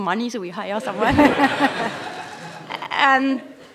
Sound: laughter

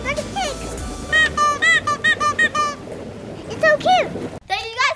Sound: toy squeaks

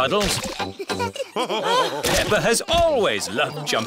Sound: all laughing

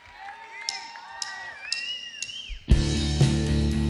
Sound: audience members shouting

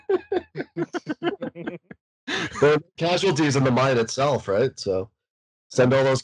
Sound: laughter

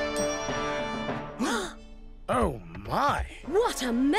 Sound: gasping

